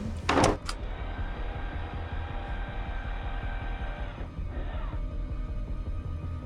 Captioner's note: camera whirring; tense music